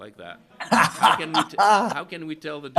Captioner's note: Alan laughs